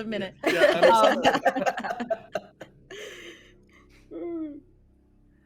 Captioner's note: everyone laughs